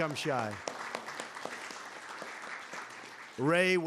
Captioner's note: applause